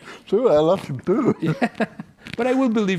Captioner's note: laughs